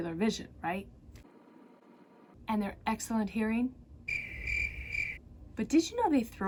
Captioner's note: crickets